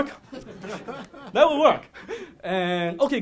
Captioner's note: laughing